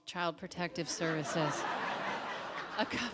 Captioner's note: audience laughs